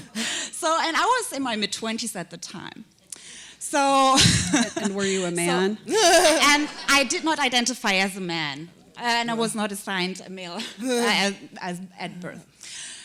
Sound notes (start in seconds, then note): 0.0 chuckle; 3.7 chuckle; 4.1 laughter